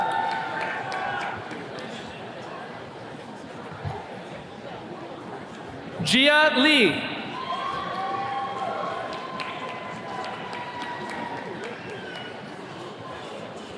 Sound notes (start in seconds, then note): 0.0 attendees cheering; 8.0 attendees cheers and claps